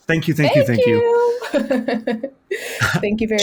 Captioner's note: laughs